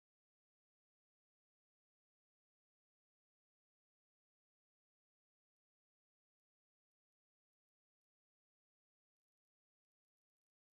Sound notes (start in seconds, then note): none